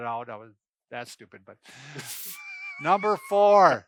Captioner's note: laughs